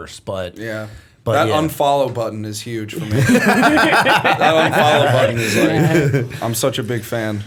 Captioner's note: laughter